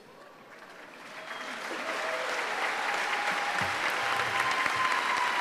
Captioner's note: applause